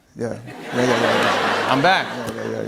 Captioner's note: laughter